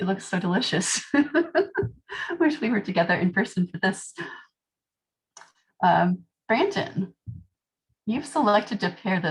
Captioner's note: laughter